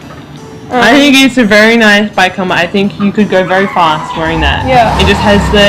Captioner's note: screeching car noises